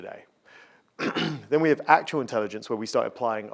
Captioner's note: coughing